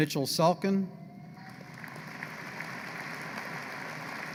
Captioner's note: applause